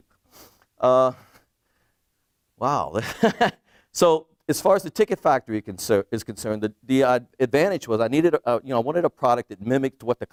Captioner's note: laughs